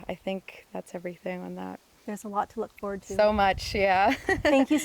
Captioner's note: laughter